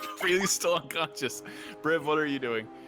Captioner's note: laughing